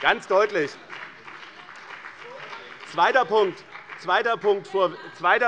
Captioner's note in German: Beifall bei dem BÜNDNIS 90/DIE GRÜNEN - Unruhe - Glockenzeichen der Präsidentin